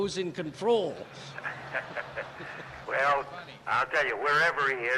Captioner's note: laughter